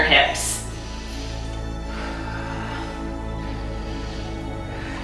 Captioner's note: breathing deeply